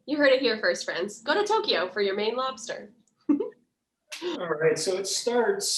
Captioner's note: giggles